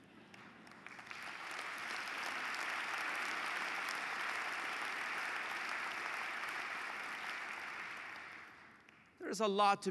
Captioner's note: applause